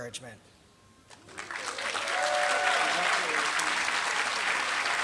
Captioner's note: applause